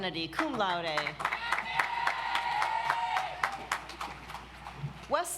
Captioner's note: audience applauds